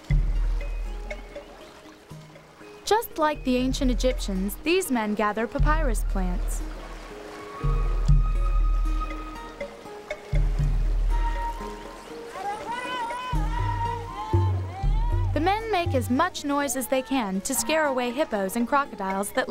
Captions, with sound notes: JUST LIKE THE ANCIENT EGYPTIANS, THESE MEN GATHER PAPYRUS PLANTS. [MEN SHOUTING IN FOREIGN LANGUAGE] THE MEN MAKE AS MUCH NOISE AS THEY CAN TO SCARE AWAY HIPPOS AND CROCODILES